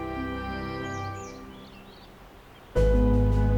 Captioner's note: birds chirping; soft music